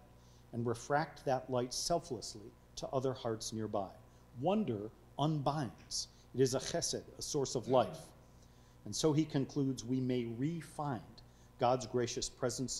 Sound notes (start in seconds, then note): 6.6 speaking foreign language